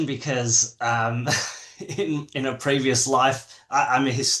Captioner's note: laughs